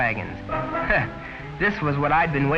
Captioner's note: chuckling